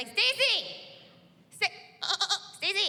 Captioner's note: mimics baaing